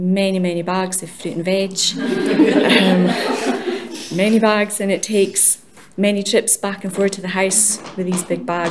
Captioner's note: laughter!